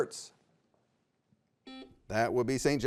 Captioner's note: buzzer beeps